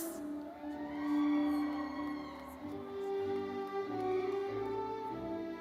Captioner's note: audience cheering